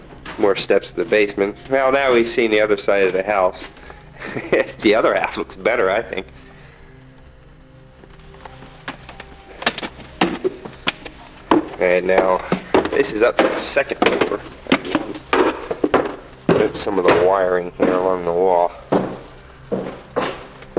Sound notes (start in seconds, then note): 4.1 laughs